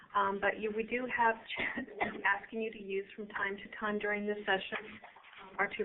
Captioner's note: cough